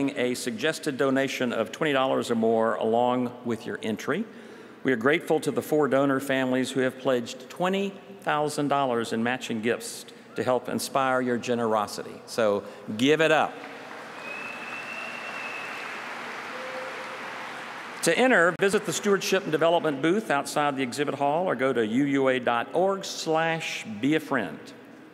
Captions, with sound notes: BUT I DIGRESS. PLEASE CONSIDER MAKING A SUGGESTED DONATION OF $20 OR MORE, ALONG WITH YOUR ENTRY. WE ARE GRATEFUL TO THE FOUR DONOR FAMILIES THAT HAVE PLEDGED HELP INSPIRING YOUR GENEROSITY. SO GIVE IT UP. [APPLAUSE] TO ENTER, VISIT THE STEWARDSHIP AND DEVELOPMENT BOOTH OUTSIDE